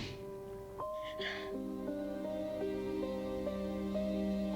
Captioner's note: Jessie crying